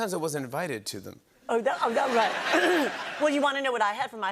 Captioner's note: laughter